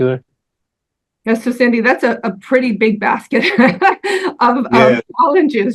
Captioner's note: chuckles